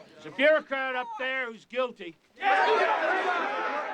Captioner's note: crowd; crowd shouting